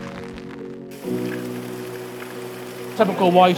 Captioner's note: rain falling